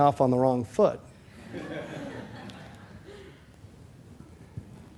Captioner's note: laughter